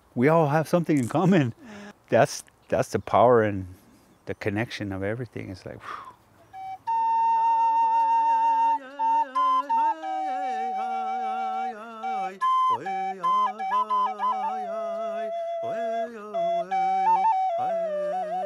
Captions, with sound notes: We all have something in common. That's the power in the connection of everything. It's like, (sighs). (flute trilling)